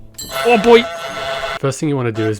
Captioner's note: honking